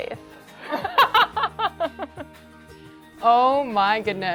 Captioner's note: laughter